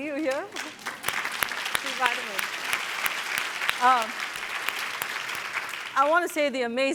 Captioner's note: applause